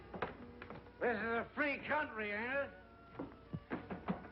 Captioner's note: slurring his speech